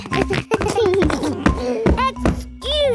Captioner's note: giggles